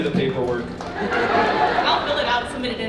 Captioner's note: audience laughs